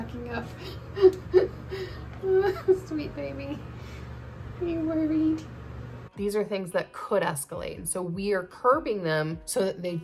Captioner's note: laughing